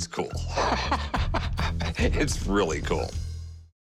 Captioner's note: laughs